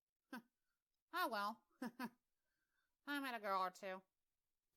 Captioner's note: chuckles